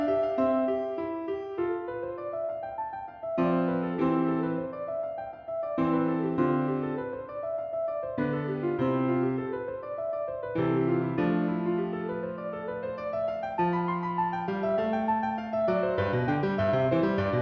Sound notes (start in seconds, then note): none